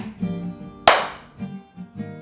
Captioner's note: loud single handclap; guitar music